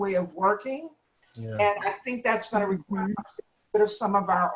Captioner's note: faintly speaking